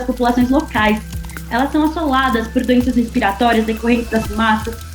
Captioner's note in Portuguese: estalos de fogo